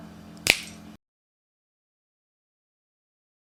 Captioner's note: snap